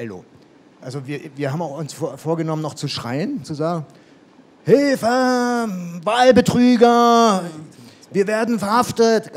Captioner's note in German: laut rufend